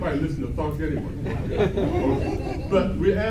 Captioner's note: laughs